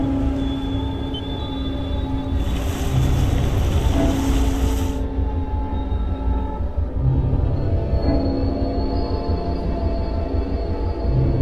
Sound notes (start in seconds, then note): 0.7 G.P.S. beeps; 3.9 engine revving; 5.4 suspenseful music